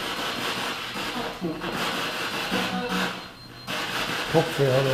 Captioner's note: device beeps again